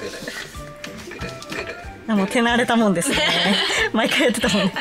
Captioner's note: laughs